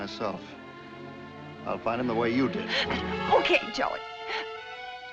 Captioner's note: gasps